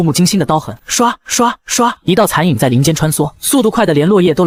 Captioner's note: swish, swish, swish